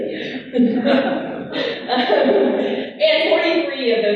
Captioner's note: laughing